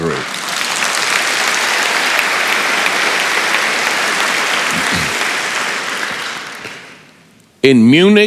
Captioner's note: applause